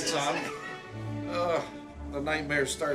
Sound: laughing

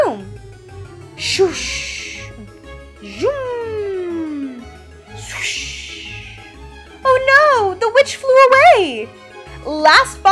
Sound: flying away sound

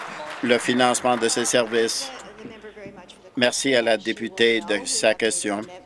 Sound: applause

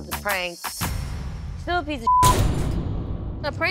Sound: beep

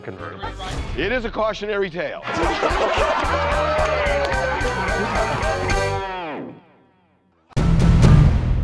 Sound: laughter

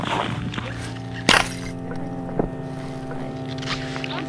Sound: shattering ice

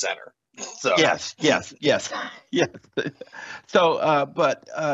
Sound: laughter

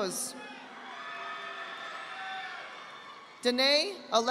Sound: audience applauding

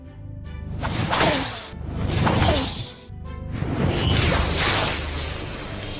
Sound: magic wand shimmering

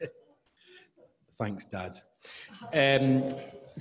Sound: laughing

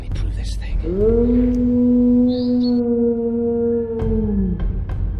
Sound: painful howl

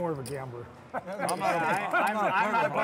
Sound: laughing

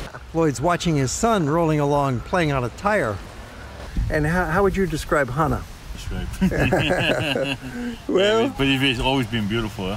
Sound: laughter

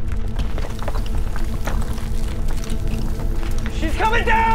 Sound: rumbling getting louder on other side

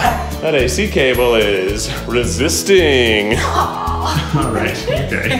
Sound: chuckles; laughs

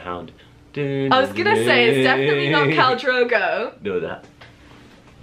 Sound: humming; continues humming

